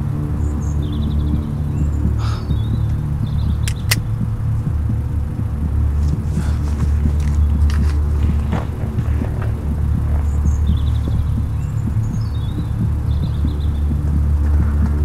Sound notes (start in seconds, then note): 9.5 heart beating sound